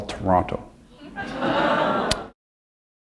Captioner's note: laughter